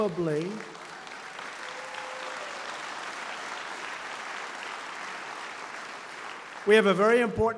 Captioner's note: applause